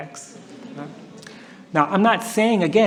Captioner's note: laughter